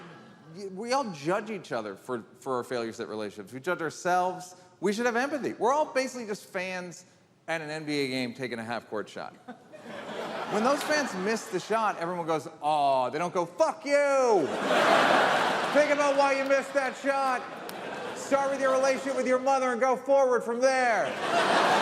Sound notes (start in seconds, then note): 14.4 audience laughs; 21.0 audience laughs